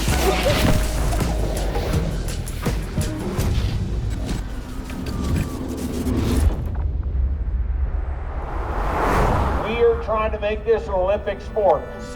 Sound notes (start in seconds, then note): 0.0 mellow music; 4.3 dramatic music; 7.4 Rivian R1T truck whooshes